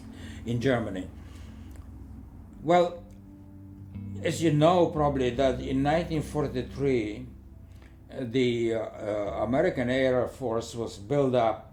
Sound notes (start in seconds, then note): none